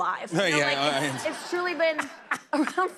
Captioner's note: laughter